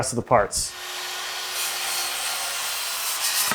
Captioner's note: whirring